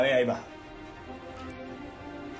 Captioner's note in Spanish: Pitido